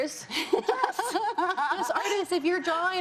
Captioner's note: laughs